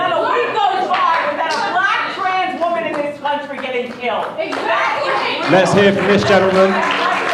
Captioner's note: shouting; applause